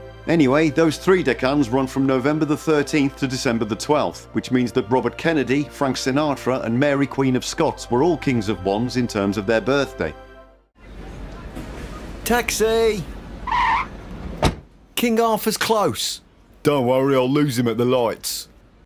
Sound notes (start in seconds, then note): 13.3 car skids